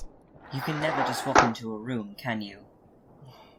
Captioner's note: carriage door slides closed